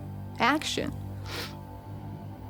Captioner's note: sniffles